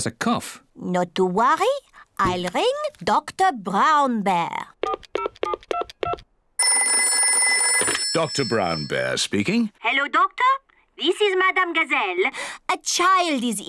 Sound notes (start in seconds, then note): 4.4 dials phone; 6.6 phone rings